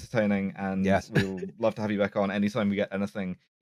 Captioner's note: chuckle